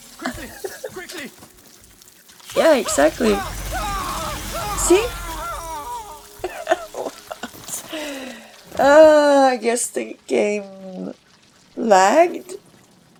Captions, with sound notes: (chuckles) Yeah, exactly! See? (laughs) I guess the game.. lagged?